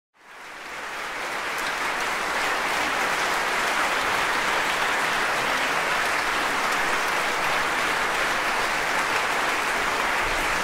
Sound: applause

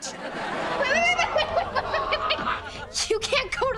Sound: giggling

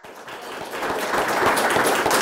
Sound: applause

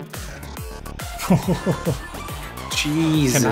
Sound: sounds of Disbelief

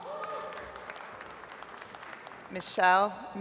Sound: audience applauds

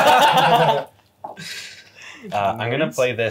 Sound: laughs

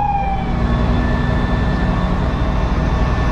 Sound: engines Running

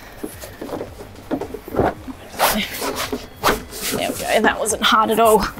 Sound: bag squelching

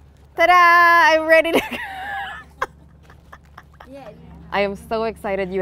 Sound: laughs

